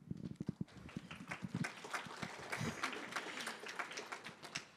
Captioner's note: audience applauds